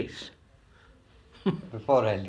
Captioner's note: laughs